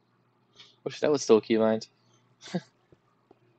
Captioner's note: laughs